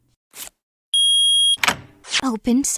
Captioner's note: beep, door unlocks!